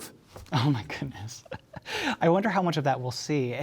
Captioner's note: laughs